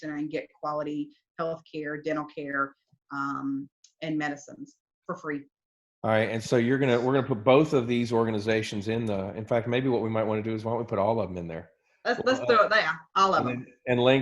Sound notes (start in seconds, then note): 12.8 murmurs